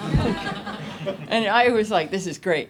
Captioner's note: audience laughs